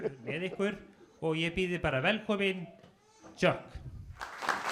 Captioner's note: laughs; man speaking Icelandic; applause